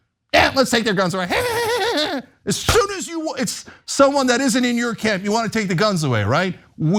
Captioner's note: laugh